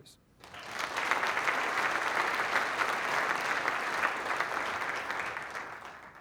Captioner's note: applause